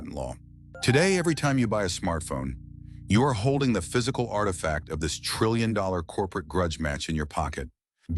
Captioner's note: SFX: soft chime